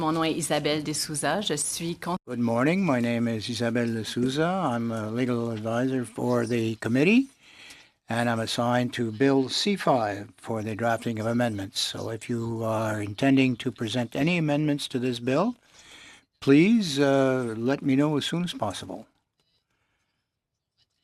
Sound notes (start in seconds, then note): 4.2 speaking French